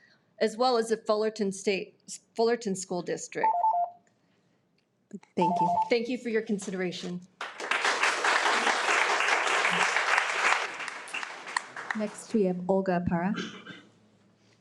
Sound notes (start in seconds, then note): 3.8 alarm beeps; 7.4 audience applauding